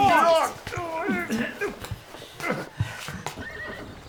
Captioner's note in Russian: звуки борьбы, тяжелое дыхание